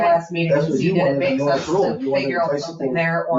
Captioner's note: people chattering